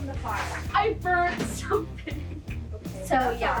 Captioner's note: laughs